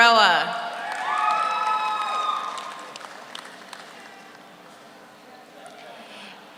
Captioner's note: audience cheers; audience applauds